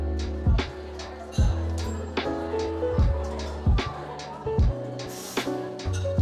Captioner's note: people chattering quietly